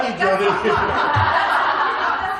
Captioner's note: laughter